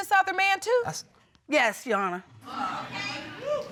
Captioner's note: audience exclaims